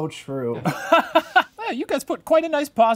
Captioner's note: laughing